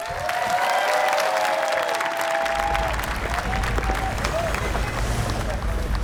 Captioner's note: cheering